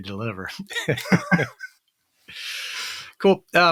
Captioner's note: laughs